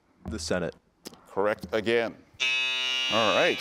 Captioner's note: buzzer beeps